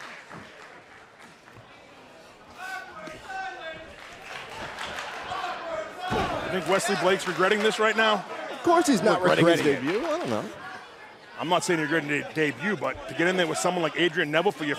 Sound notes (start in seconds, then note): 2.0 crowd cheering